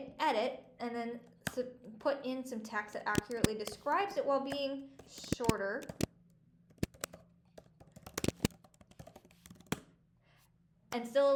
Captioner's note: keyboard noises